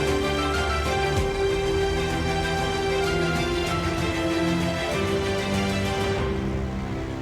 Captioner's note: applause